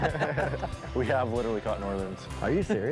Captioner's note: fishermen laugh